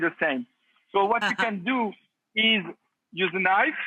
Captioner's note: laughs